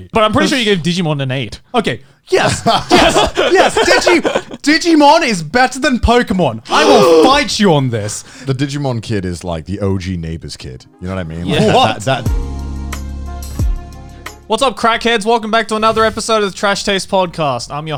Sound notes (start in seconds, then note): 2.4 all laughs; 12.4 bright upbeat music